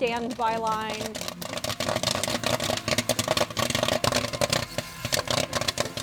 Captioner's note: popcorn popping